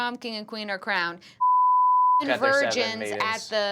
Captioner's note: beeping